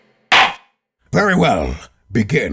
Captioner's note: gavel slams!